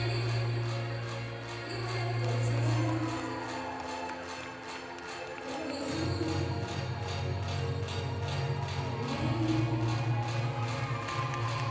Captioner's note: applause